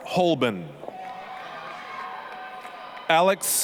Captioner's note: applause, cheering